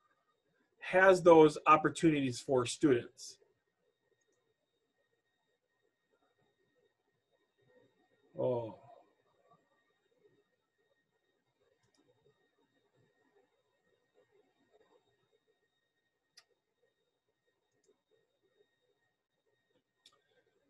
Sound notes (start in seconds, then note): 4.7 silence